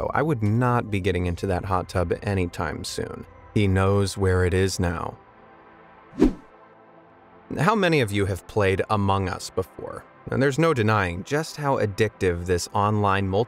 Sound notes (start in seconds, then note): 6.1 video whooshing